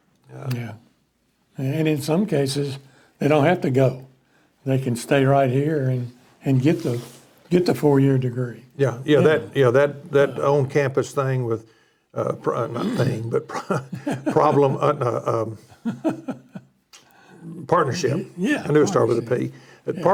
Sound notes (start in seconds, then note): 14.4 laughing